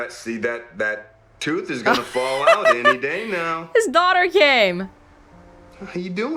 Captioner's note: chuckles